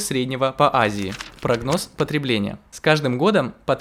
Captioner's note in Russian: звук перелистывания бумаги